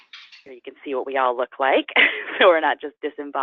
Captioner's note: laughs